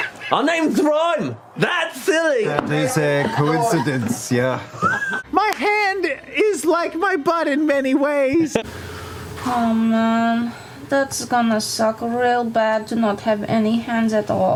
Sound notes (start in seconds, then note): 3.0 trying not to laugh